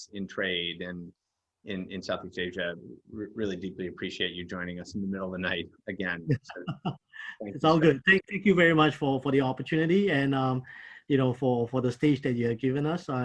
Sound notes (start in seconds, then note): 6.2 chuckles